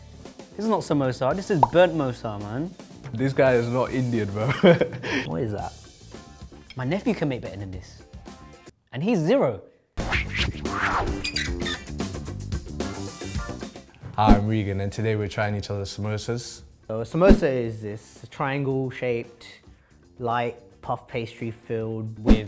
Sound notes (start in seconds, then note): 5.0 laughs; 10.0 text whooshing; 11.1 hinge squeaking; 12.1 upbeat music